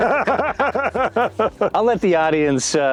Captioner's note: laughs